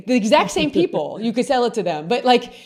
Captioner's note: laughs